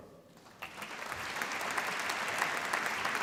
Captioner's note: applause